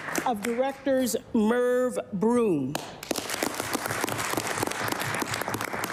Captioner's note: applause